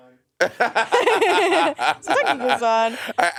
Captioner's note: Monét and Courtney laughing